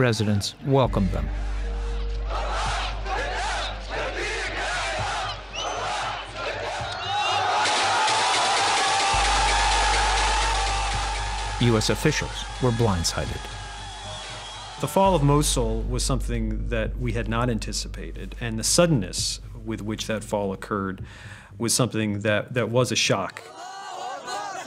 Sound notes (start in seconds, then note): 8.5 cheering